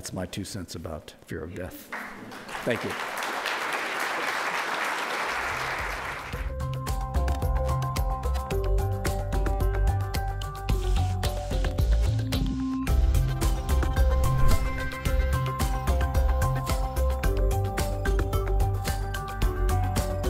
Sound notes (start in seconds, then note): 3.6 crowd applauds; 6.3 upbeat, bubbly music